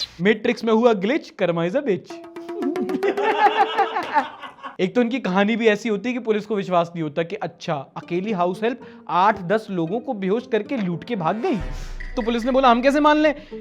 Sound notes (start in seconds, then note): 2.5 laughs